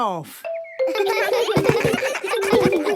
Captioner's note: giggles